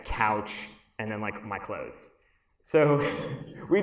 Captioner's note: laughs